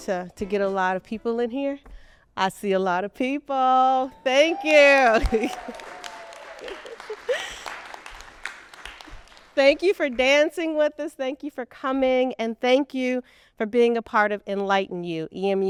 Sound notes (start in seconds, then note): 5.8 people cheering